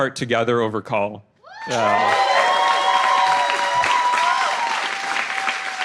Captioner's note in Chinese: 掌聲